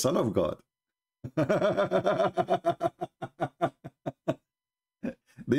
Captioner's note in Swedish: Skratt